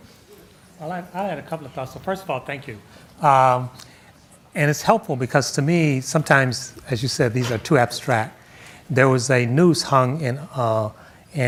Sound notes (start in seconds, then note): none